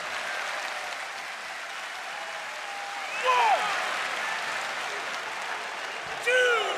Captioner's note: cheers and applause